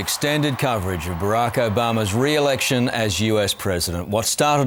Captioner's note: cheering and applause